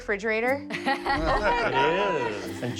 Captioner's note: laughing